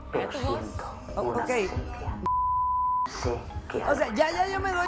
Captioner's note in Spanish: Bip